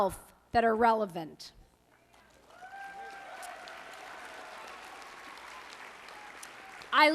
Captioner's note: applause